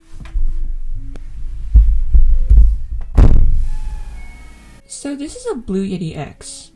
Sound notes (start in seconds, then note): 1.7 rumble; 1.7 boom